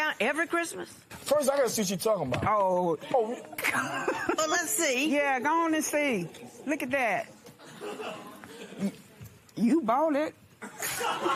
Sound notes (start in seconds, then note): 3.6 laughs